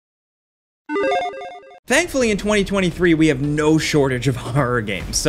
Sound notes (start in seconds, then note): 0.9 electronic chiming